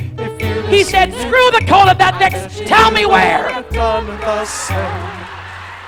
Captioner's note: audience laughs